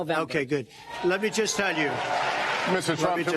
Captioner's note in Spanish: aplausos